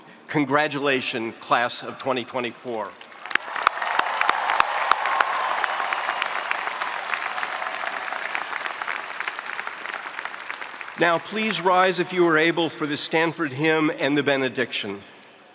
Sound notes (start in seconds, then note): 3.4 spectators applauding; 4.9 spectators cheering